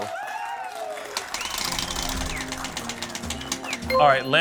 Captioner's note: applause